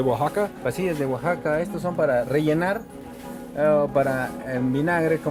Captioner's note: speaking in foreign language